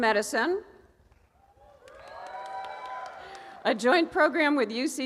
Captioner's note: cheering and applause